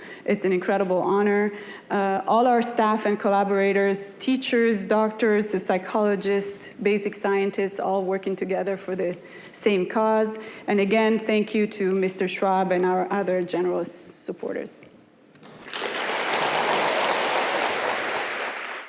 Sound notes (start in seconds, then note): 15.4 audience applauding